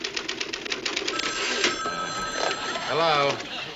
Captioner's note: phone ringing